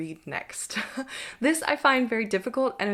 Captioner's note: chuckles